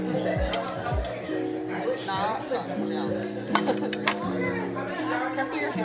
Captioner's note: in Mandarin